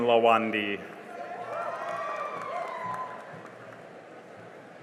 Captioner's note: cheering and applause